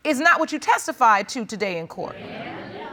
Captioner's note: audience murmurs